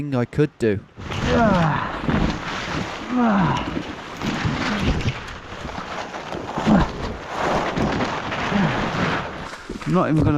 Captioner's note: trees rustling; grunting